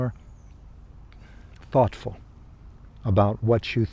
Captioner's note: sighs